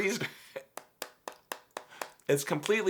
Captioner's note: laughing; hard tapping